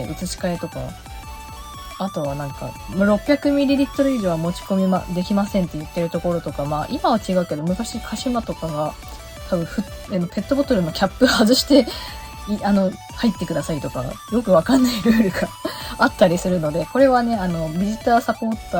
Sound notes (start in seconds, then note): 14.7 laughs